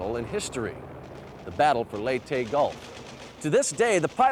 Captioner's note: guns firing